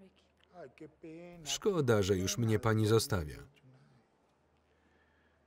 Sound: speaking foreign language

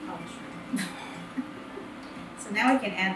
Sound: laughing

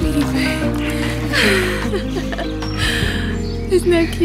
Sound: laughter

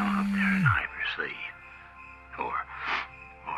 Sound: phone rings

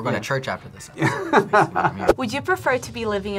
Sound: laughs

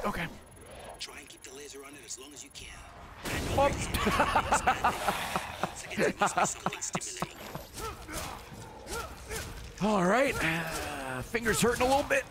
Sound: laughs

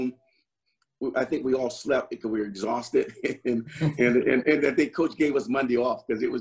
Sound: laughs

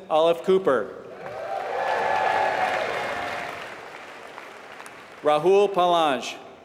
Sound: applause

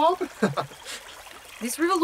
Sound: Bob laughs

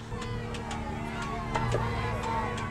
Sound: crowd yelling

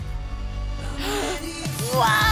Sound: excited gasping

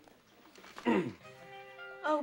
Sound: cleari tnghroat

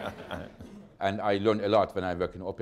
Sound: laughter

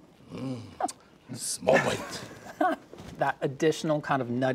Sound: chuckling

